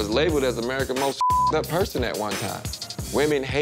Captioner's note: beep